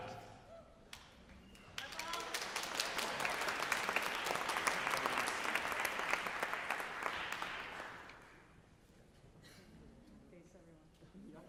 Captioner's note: applause